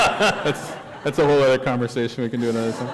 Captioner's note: laughter